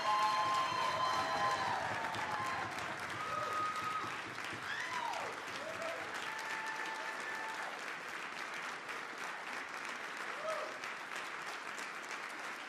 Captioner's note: applause